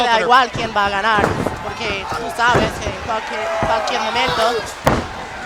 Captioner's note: commentators speaking in Spanish